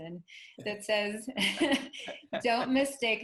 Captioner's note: chuckles